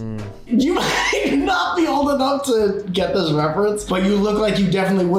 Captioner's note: laughs